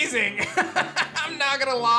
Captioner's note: laughs